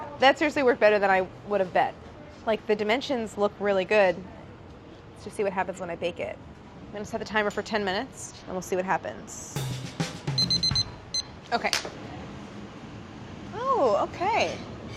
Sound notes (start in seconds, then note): 9.5 jazz percussion; 10.3 timer beeping